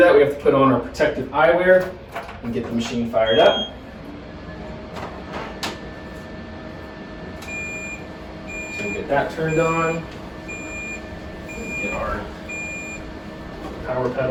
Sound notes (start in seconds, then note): 3.2 machine beeps; 8.4 machine beeps